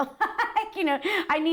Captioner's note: laughter